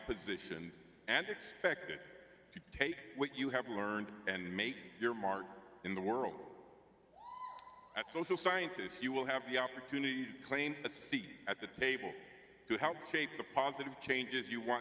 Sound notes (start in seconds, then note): 7.2 cheering; 8.0 clapping